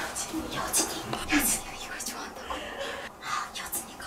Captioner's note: whispering